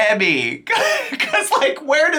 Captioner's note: chuckles